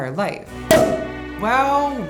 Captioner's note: cork popping